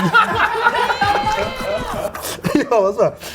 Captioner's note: all laughing